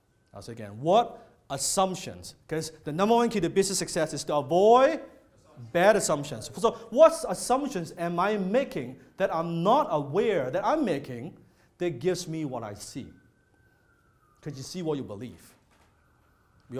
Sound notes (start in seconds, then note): none